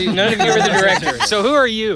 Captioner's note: laughing